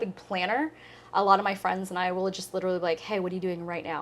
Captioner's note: none